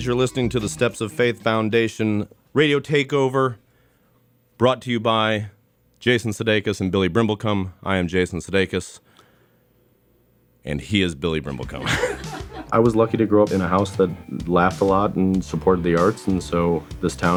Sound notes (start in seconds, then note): 11.8 laughter